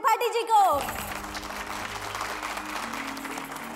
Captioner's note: Applause